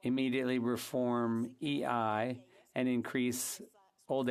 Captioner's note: speaking French